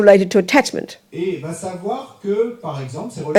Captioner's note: audience member speaks in French